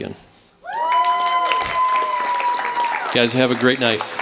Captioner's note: cheering, applause